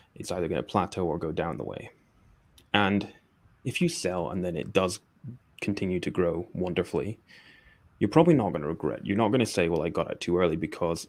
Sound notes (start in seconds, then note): none